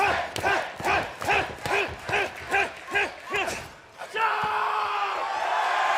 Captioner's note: fans chanting